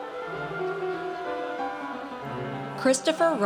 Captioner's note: audience cheers